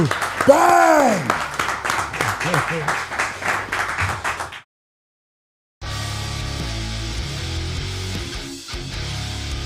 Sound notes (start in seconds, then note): 0.5 Dallas screams; 1.9 crew applauds